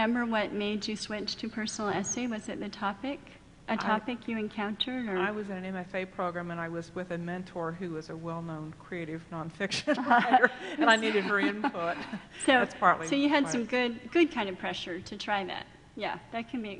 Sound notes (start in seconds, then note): 9.9 laughing